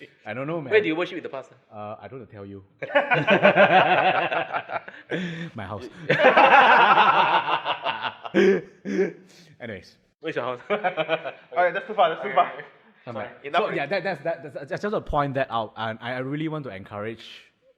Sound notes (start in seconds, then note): 2.8 laughs